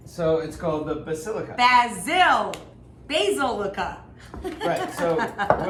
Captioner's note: giggles